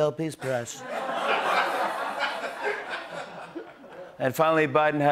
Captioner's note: laughter